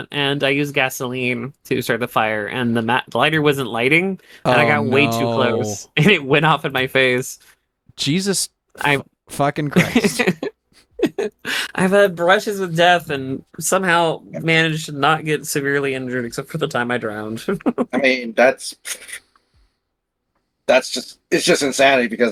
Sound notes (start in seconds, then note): 9.8 laughing